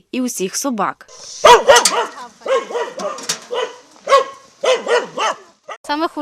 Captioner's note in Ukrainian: гавкає собака